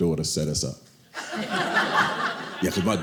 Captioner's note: audience laughing